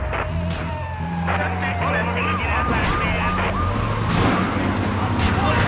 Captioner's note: tires screeching; explosions; tires screeching